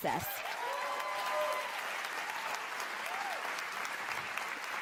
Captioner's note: applause and cheers